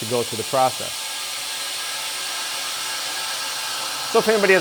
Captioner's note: whirring